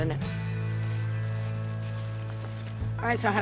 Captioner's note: shoes crunching dirt